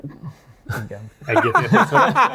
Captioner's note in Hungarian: nevetés